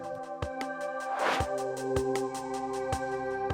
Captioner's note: air swooshes; intriguing music